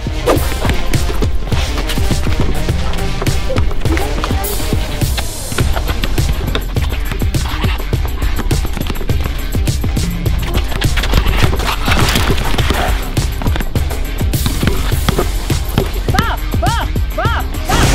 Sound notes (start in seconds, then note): 0.3 intense music; 2.3 ball dribbling; 11.9 crack; 14.2 ball dribbling